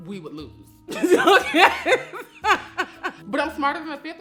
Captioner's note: laughing